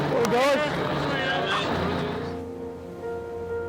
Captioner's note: people chatting; melancholy music